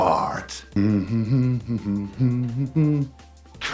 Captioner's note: humming